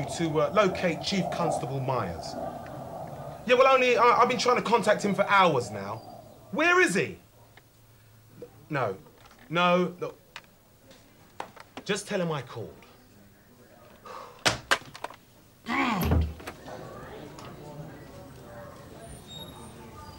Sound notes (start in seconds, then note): 13.6 Phil sighing heavily; 13.6 receiver clattering; 16.2 door clicking; 16.5 background station workers bustling